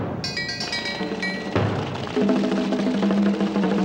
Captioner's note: liquid pouring